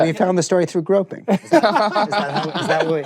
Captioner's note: laughter